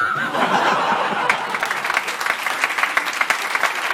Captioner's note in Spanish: Risas y aplausos